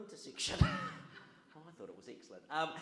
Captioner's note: audience laughs